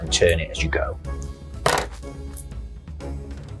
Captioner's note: scissors clatter